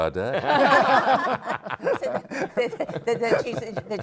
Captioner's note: laughter